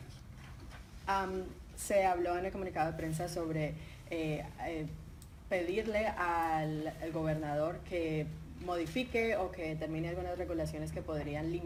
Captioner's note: speaking in Spanish